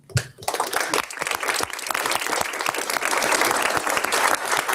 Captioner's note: audience applauds